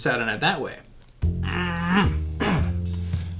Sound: grunting

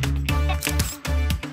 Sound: snap!

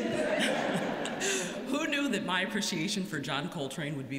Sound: laughter

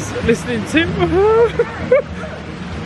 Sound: cries out

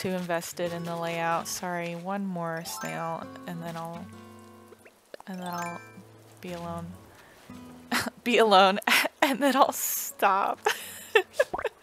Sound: laugh

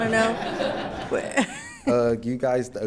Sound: attendees laughing

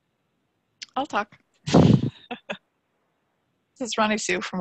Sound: chuckling

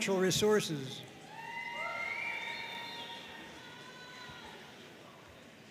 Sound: audience cheering and applauding

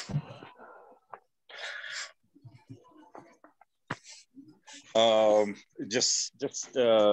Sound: silence

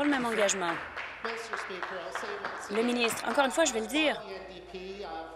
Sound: applause

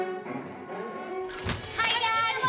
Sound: bell rings

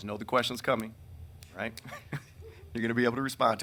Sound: man laughing

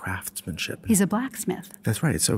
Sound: voiceover

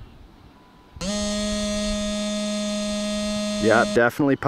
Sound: pump whirring

